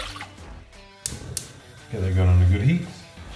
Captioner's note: water splashes into pan; burner ignites; clicking